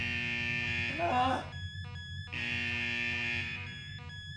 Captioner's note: shrill buzzing and beeping